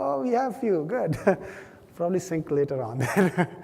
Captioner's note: laugh